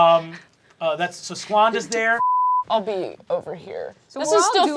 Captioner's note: beeping